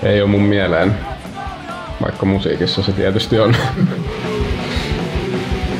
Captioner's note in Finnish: naurahtelua